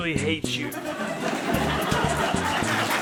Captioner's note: studio audience laught track; studio audience clapping